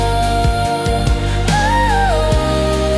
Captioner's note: humming